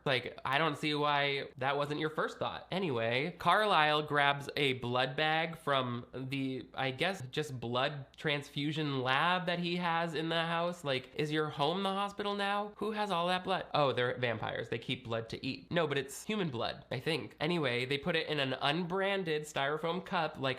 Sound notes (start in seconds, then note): none